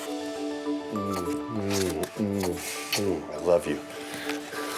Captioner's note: smooching